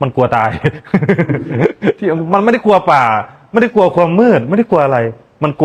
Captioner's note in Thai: เสียงหัวเราะ